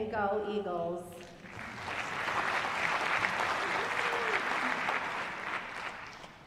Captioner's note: applause